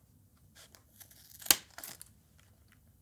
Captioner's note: sharp cutting noise